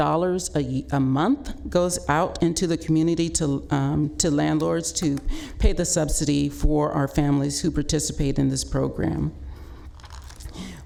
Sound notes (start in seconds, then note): none